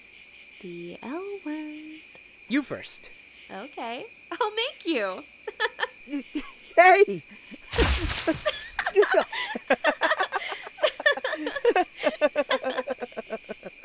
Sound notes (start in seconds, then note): 5.6 sinister Giggles; 8.0 happy Laughter